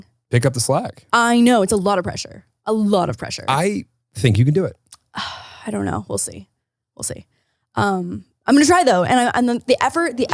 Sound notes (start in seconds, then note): 5.2 sighs